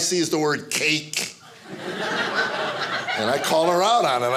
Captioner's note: audience laughing